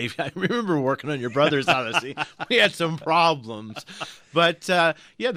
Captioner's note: both laugh